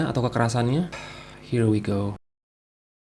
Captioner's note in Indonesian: Sigh